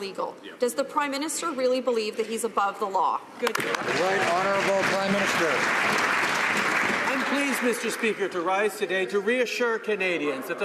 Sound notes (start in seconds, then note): 6.9 some Applause